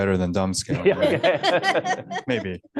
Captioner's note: laughter